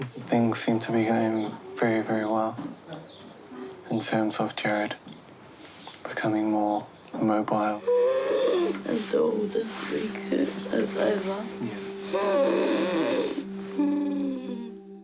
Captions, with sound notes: Things seem to be going very very well in terms of Jarrod... becoming more mobile. (WHEEZES) Until this week is over. (BREATHES RASPILY)